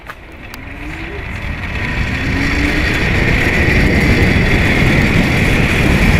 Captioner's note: wind rushing